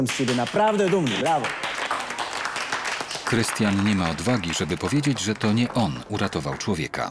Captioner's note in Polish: Aplauz